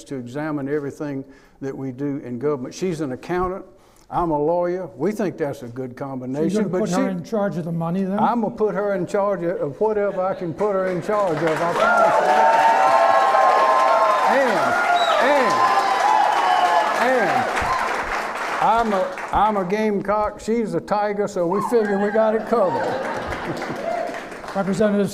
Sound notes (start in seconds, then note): 10.7 clapping; 21.6 laughing